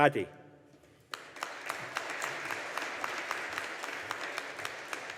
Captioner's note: audience applauding